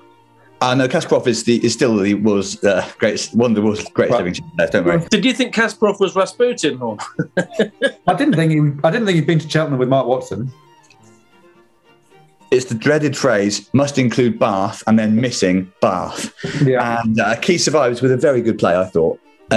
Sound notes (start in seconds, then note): 6.9 chuckling